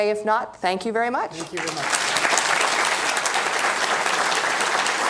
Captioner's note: applause